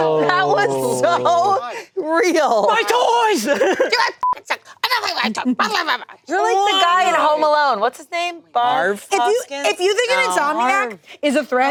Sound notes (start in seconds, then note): 4.2 beep; 5.5 mumbling